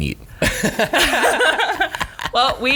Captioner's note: laughing